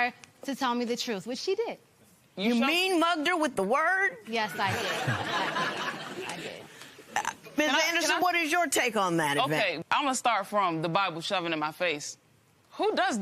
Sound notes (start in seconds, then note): 4.5 laughter